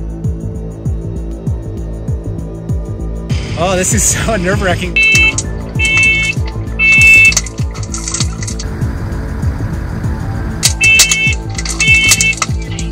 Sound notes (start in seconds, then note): 4.8 alarm beeping; 5.1 fire crackling; 8.8 truck engine idling; 10.6 alarm beeping; 10.7 fire crackling